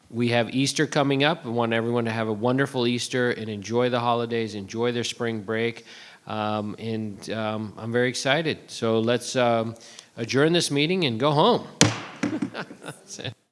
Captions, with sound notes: We have Easter coming up, we want everyone to have a wonderful Easter and enjoy the holidays, enjoy their spring break, and I'm very excited, so let's adjourn this meeting and go home. (gavel thuds) (board member laughs)